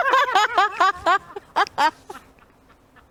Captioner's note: laughter